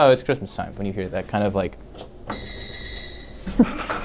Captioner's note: plays sleigh bell sound